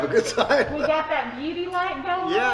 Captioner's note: laughing